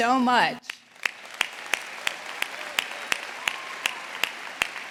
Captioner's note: audience applauding